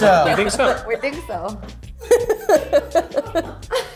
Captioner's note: laughs